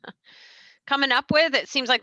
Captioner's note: laughs